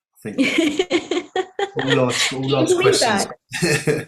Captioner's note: speaker drowned out by laughing